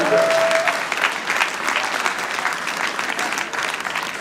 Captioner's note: audience applauding